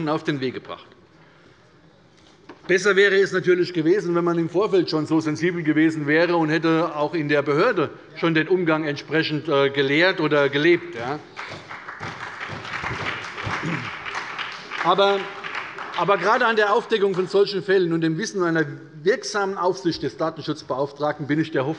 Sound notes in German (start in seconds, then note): 11.0 Beifall bei der SPD und der FDP